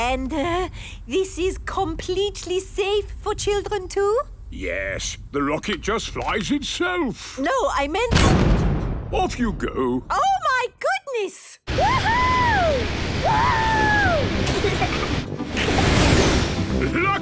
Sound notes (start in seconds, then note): 8.1 blasts off; 13.3 rocket thrusting